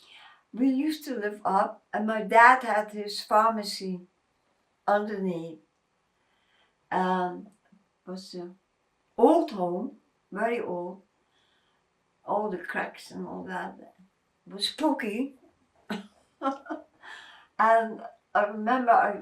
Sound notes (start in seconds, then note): 16.4 laughing